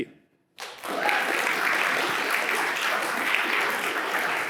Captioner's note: all applauding